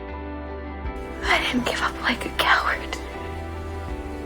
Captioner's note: voiceover